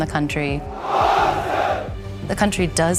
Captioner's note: soldiers chanting